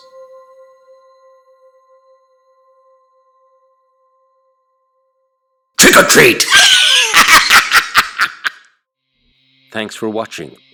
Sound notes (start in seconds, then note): 0.0 eerie Music Fades; 5.9 scary laugh